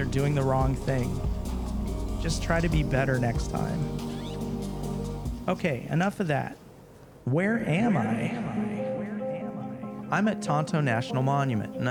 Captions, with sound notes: or doing the wrong thing. Just try to be better next time. OK, enough of that. Where am I? (echo) I'm at Tonto National Monument